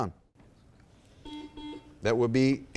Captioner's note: buzzer beeps